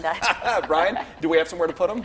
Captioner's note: laughs